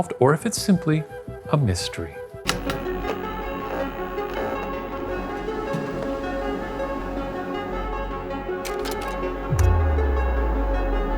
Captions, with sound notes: or if it's simply a mystery. (suspenseful music) (projector clicking)